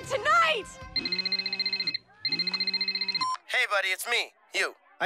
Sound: cell phone rings

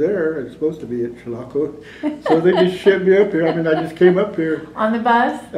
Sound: laughter

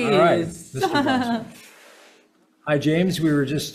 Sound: laughs

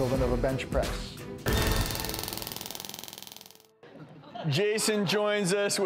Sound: machine clicking

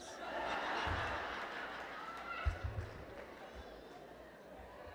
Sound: laughter

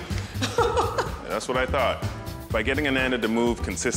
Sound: laughs

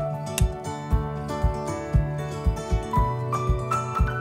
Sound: clapperboard clicking

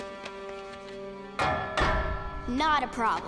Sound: knocking

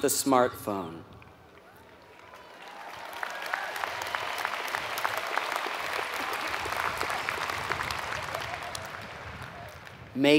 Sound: applause

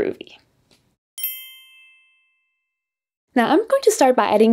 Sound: bell chimes

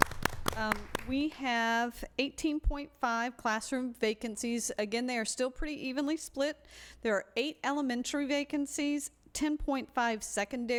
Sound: applause

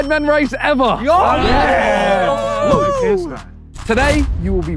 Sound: all cheer

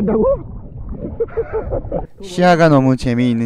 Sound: laughing

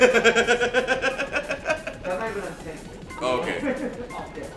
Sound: laugh

